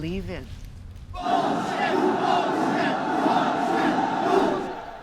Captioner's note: chanting